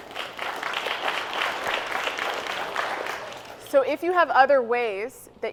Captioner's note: audience applauds